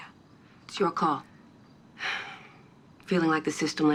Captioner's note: sighs